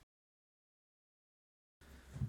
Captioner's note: silence